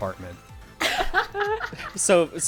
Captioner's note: laughing